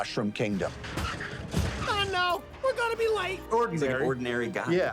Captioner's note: van sputtering